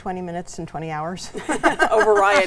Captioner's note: everyone laughs